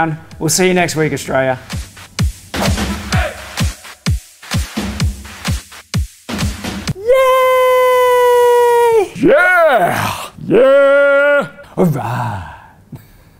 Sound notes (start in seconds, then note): 2.3 upbeat rhythmic music; 12.2 laughs